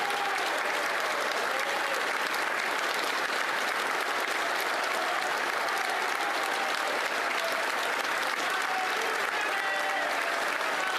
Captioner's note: applause